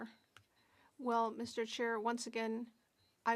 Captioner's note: speaking French